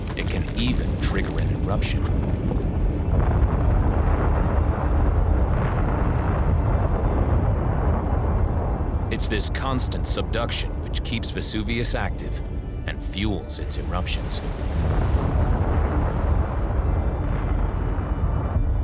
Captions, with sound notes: it can even trigger an eruption. (eruption echoing) It's this constant subduction which keeps Vesuvius active and fuels its eruptions. (eruption echoing)